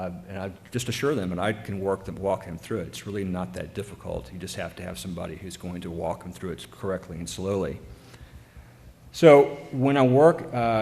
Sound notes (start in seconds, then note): none